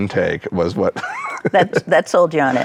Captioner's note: laughs